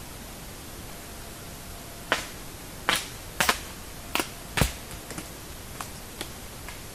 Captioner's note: loud stick breaking